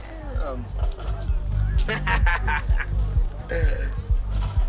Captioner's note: laughs